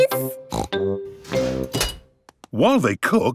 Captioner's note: beeps